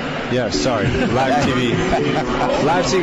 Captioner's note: laughter